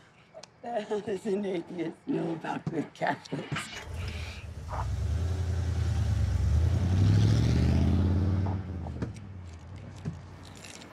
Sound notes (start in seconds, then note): 3.8 truck engine revving